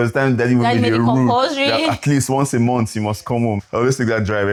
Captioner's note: laughs